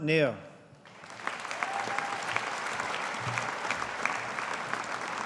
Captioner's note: audience applauding